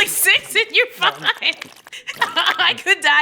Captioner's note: laughing